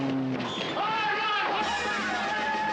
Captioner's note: bull bellowing; men screaming